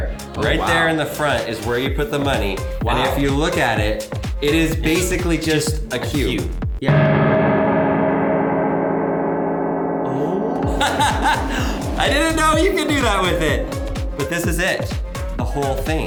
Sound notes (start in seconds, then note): 7.0 metal clangs loudly; 10.1 laughs